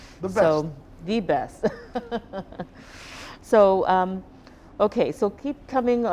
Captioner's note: chuckling